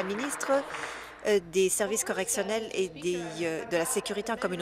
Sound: applause

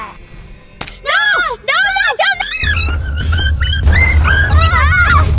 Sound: screaming

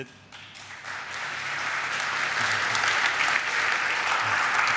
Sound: audience applaud

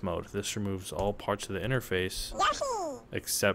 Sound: Yoshi noise

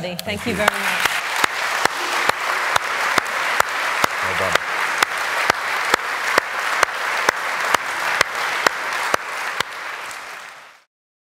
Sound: applause

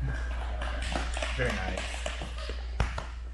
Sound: spectators applauding

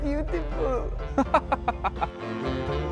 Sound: laughter

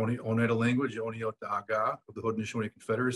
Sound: speaks foreign language

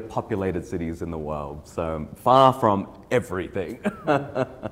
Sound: laughing

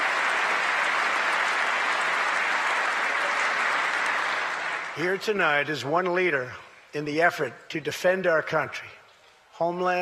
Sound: applause

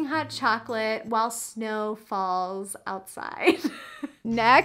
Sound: chuckles

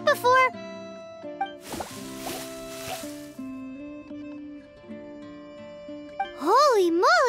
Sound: squelch squelch

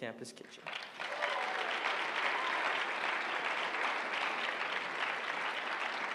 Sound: applause

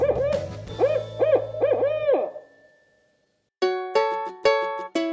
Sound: owl call

